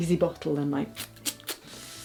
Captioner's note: imitates squirt bottle